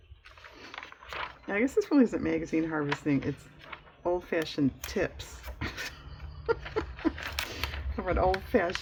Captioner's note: laughs